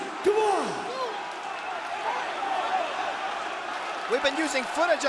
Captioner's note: crowd exclaiming